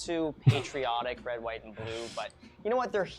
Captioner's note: laughs